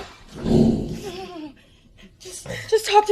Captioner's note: laughs